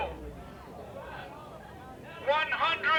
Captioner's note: crowd chattering